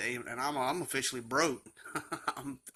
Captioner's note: laughs